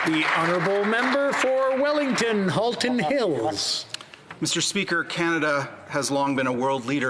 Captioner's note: applause